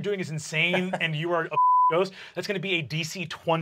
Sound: beep

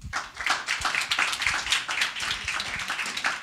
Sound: applause

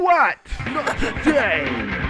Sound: snickering

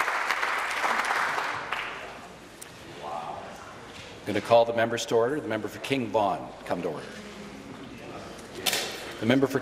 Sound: applause

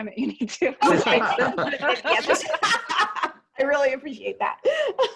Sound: laughing

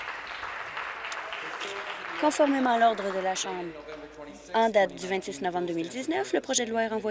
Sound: applause

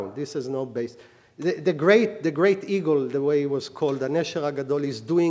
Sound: speaking hebrew

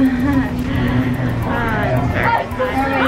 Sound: laughing

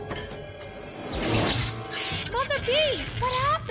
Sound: crackling static

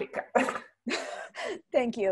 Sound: laughter

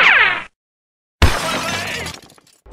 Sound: crash

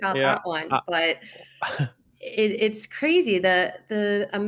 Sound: chuckles

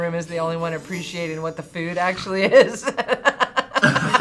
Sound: laughs

